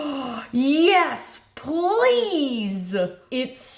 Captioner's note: gasps